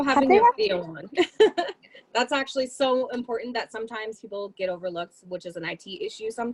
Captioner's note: laughter